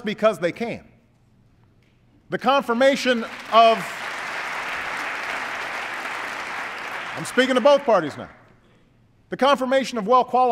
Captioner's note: applause